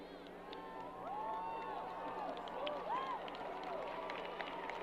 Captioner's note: crowd applause